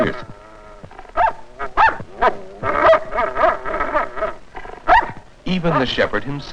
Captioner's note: irritating barking